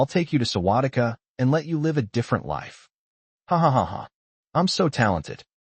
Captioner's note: ha ha ha ha